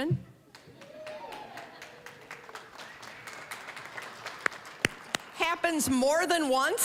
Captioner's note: audience cheering, applauding